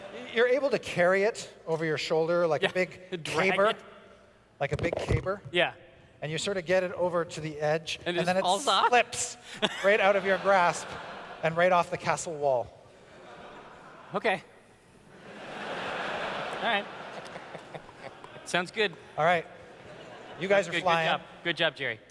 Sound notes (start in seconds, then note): 15.2 laughter